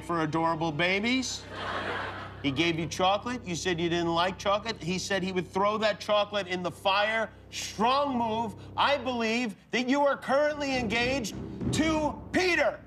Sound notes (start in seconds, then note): 3.7 laughter